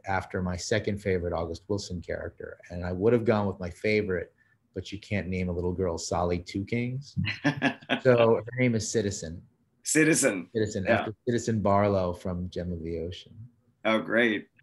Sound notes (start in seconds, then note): 7.2 laughs